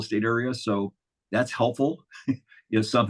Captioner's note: chuckles